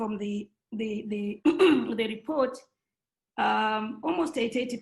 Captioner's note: clears throat